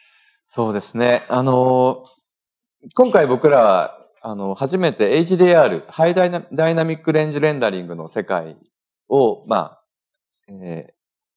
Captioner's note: speaking japanese; speaking japanese